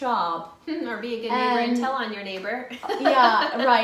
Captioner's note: loughs